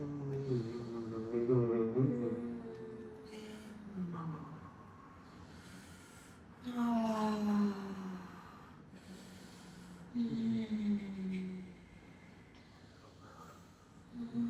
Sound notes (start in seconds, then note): 0.0 moaning